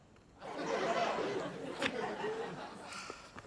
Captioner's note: laughter